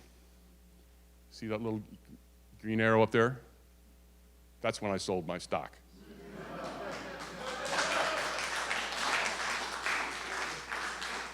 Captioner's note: audience applause